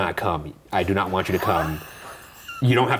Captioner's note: chuckling